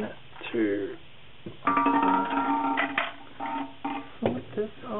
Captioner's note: plastic hitting ceramic